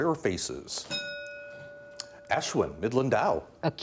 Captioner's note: bell dinging